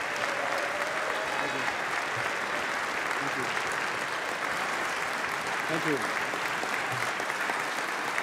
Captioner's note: applause; cheering